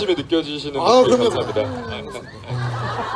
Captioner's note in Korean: 웃음